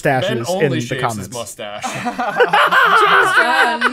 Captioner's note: laughter